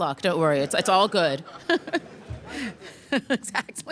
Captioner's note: laughter